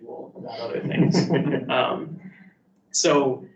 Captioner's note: participants laugh